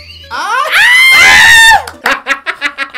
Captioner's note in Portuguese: gritos